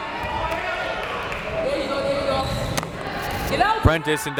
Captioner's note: crowd members shouting